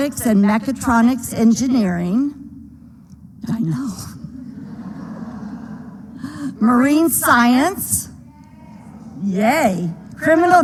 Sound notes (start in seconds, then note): 4.3 laughter